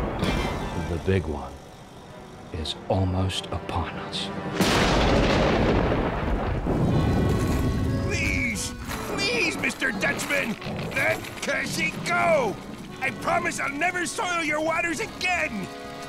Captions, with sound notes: The Big One... is almost upon us. [thundering] Please, please Mr. Dutchman! Let Cashy go! I promise I'll never soil your waters again!